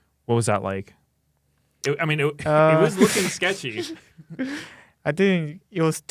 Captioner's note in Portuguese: risos